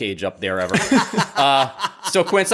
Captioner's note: laughs